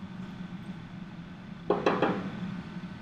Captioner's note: knocking